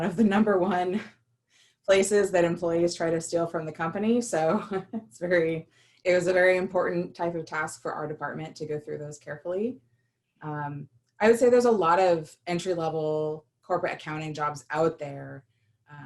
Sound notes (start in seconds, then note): 4.4 laughter